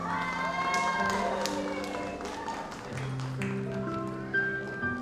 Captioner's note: audience applauds